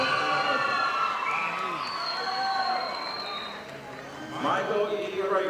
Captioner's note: audience applauding